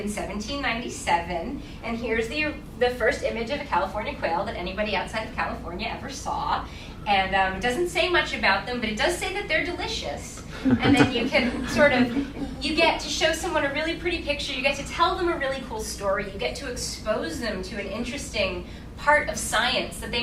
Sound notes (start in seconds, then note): 10.5 laughing